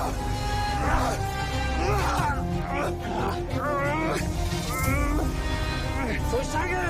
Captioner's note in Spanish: Jadeos y exclamaciones